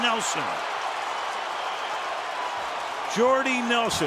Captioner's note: cheering